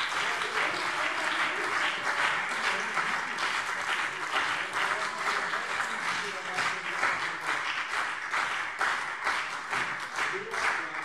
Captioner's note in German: Beifall BÜNDNIS 90/DIE GRÜNEN und CDU - Zurufe Freie Demokraten und DIE LINKE